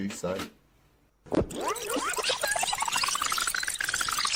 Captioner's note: tape squealing